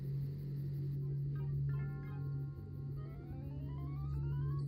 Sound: TV lulling

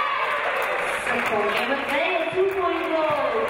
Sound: audience cheering

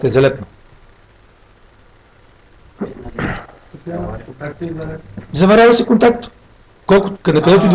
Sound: commotion

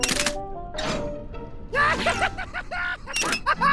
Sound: clicking; laughing

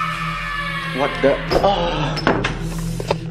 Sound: breathing fast

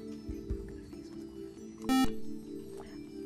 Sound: whispering; buzzer

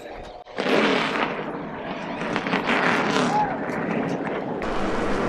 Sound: car engines start

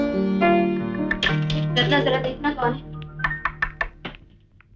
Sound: door knocks

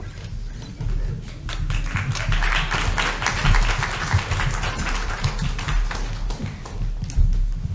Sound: audience Clapping

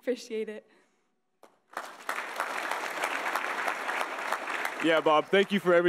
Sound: audience applauding

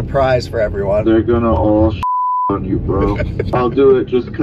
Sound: beep

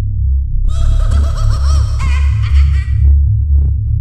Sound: Rap Rat laughs

